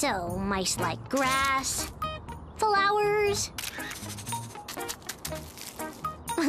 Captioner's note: shutter click